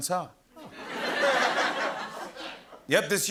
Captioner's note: laughter